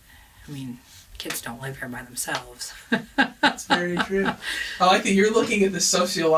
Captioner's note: laughs